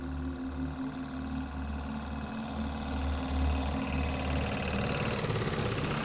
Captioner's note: tractor noise